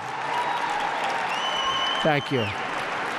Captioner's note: applause